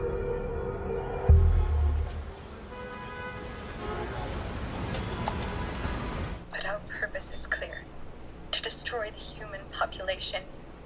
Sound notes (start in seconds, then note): 1.4 car horns honking